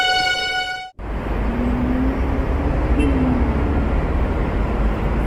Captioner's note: engines rumbling